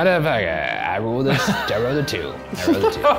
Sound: laughs

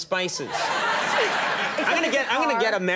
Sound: audience laughing

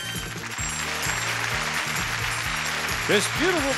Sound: adience applauds

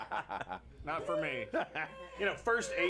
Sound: scattered laughs

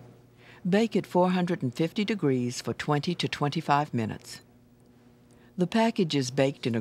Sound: voiceover

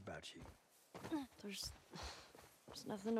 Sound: sigh

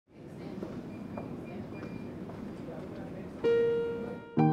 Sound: employees chattering; machines beeping; gentle piano music

